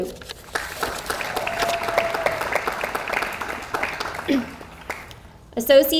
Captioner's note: audience applauds